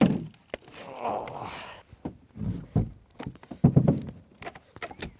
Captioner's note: groaning